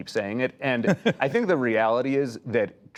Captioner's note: laughter